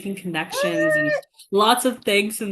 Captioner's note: cheering